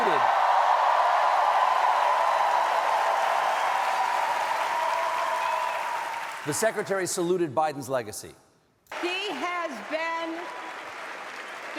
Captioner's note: cheers and applause